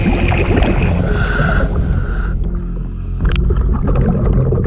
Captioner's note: water gurgling